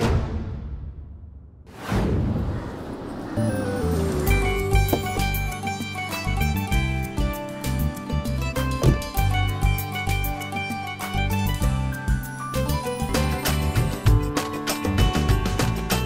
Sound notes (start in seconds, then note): 4.6 pleasant music; 8.8 door closes